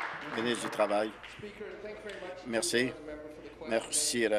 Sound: applause

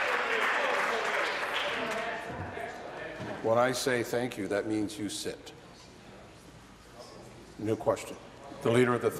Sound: applause

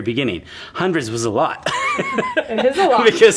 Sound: laughs

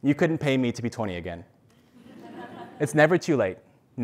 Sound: laugh

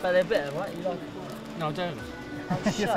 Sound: laughing

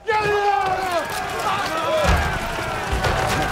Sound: crowd roaring; clatter

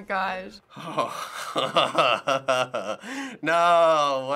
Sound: chuckling

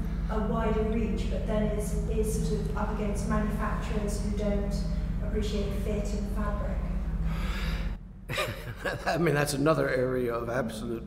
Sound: laughs

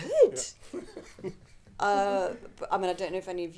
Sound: audience laughing

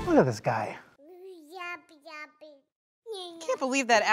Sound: baby gabbing

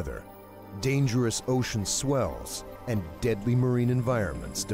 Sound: voiceover

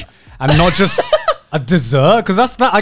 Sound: laughing

